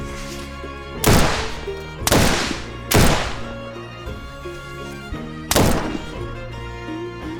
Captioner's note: light dramatic music; gunshots banging